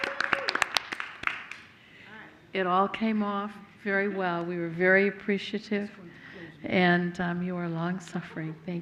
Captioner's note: applause